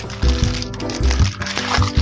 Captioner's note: background sound, flipping the baked cake out of the cake pan